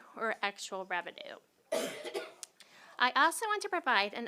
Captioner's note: cough